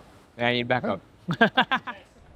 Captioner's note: laughs